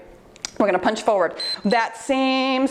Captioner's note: timer beeps